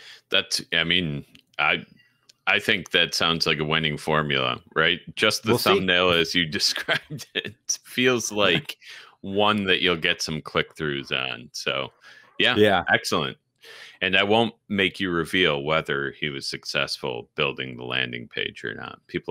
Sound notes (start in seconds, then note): 5.2 laughs